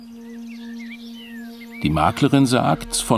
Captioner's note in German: Vogelzwitschern